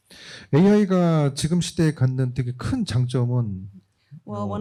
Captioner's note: speaking korean